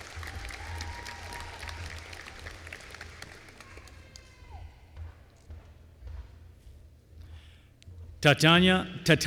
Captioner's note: applause